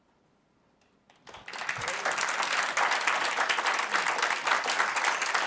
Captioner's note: applause